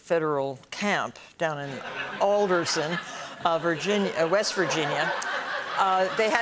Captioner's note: laughter